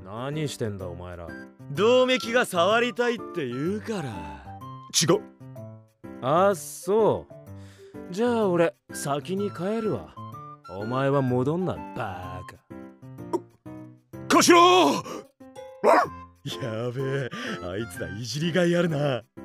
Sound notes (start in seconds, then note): 15.8 bark